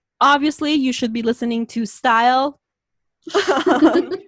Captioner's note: laughs